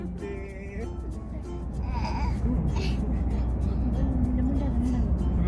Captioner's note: baby sounds